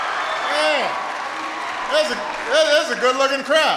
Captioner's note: applause